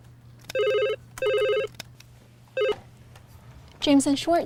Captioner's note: phone rings